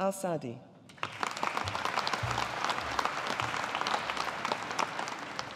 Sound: audience applauding

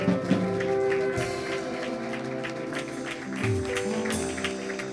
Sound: audience applauding

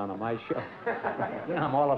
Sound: laughter

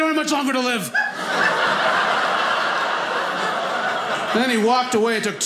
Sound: audience laughing

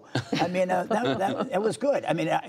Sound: laughter

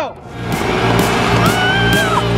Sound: air blower roaring; screaming; pulsating rock music

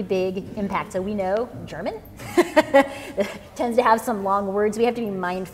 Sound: laughs

